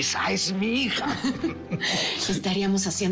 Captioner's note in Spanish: Risas